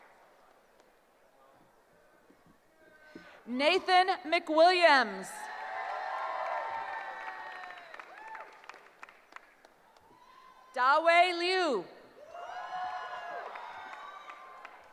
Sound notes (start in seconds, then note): 5.2 cheering; 12.2 cheering